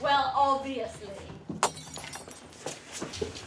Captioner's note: glass breaking